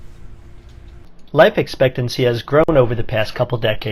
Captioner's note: voiceover